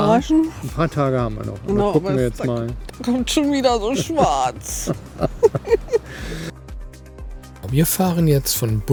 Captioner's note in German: gelächter